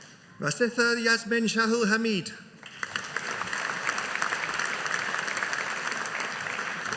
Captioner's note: audience applauding